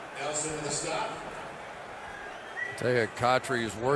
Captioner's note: stadium announcements